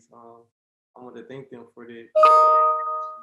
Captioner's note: loud tone